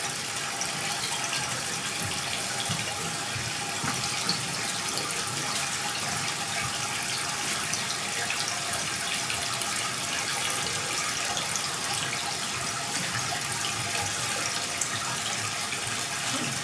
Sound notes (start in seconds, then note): 1.5 water trickling continues; 11.1 water trickling continues